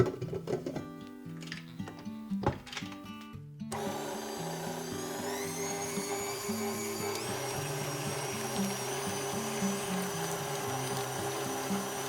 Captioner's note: stirring rods